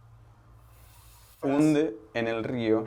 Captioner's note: whispers